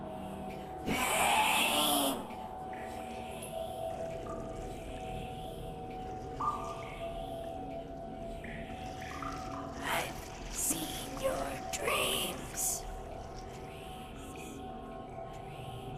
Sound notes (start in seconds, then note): 2.4 water dripping; 12.8 gentle eerie music